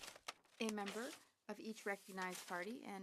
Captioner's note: speaking French